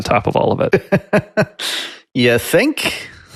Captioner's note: laughs